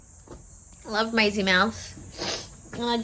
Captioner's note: sniffs